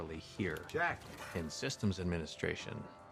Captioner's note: narrating